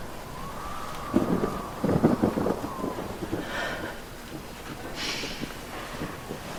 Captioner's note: thunder cracks